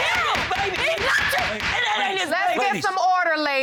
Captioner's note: gavel pounding